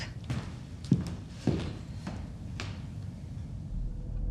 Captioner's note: footsteps thudding